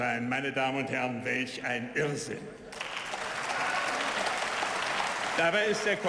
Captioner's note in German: Beifall